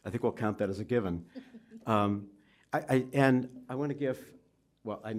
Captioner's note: laughs